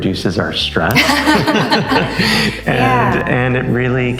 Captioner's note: both laugh